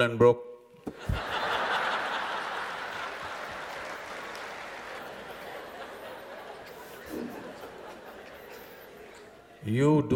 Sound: laughter/Applause

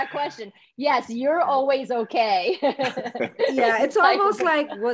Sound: laughs

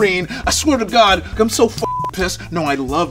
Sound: beep

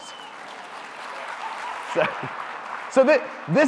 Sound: audience applauding

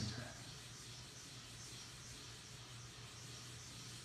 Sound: scratching

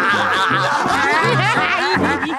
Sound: laughing

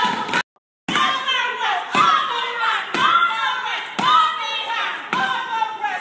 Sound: shouting

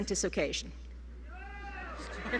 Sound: laughter

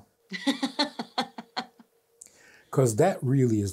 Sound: laughs

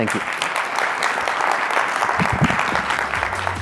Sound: applause

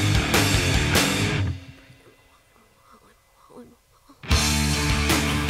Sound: woman whisper-repeating

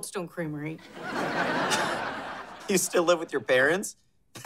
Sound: laughs

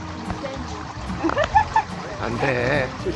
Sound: laughing

